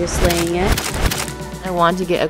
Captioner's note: camera clicks